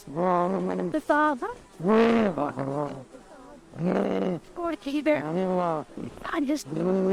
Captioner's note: Bruno growls like a beast